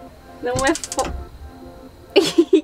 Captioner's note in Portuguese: Barulho de fogão